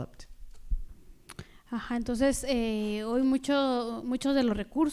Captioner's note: speaking spanish